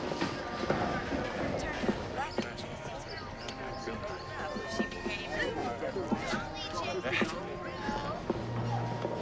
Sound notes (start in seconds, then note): 2.1 background chatter